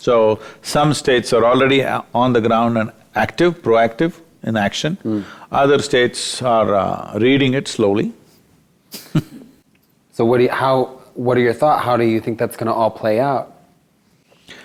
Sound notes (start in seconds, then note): 9.0 laughs